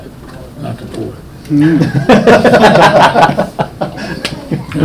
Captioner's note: people laughing